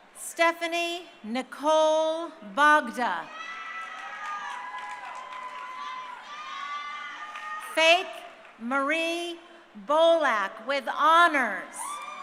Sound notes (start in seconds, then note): 6.3 crowd cheering; 11.8 crowd cheering